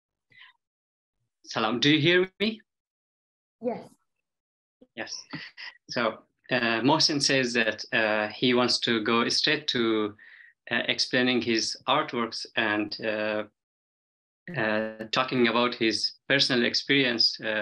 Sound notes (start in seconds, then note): 1.6 speaks in Dari